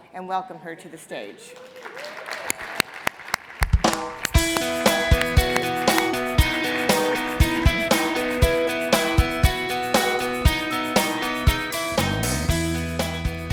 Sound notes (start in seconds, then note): 1.9 audience applauds; 4.1 upbeat music